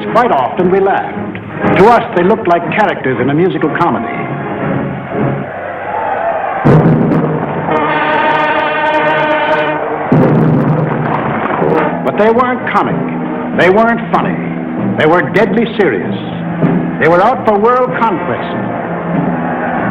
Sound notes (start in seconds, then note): 5.2 crowd cheering; 8.2 dramatic music